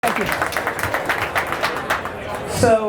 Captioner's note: audience applause